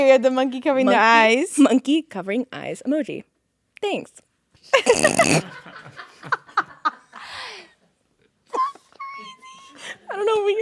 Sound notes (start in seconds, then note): 4.9 everyone laughing